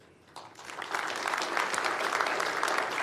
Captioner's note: applause